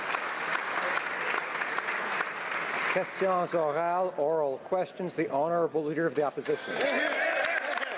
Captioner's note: applause